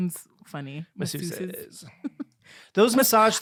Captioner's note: giggling